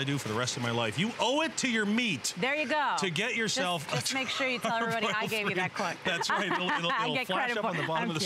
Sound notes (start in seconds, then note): 6.6 laughter